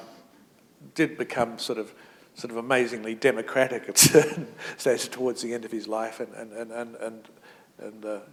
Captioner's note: chuckle